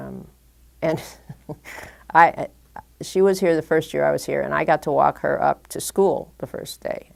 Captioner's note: chuckle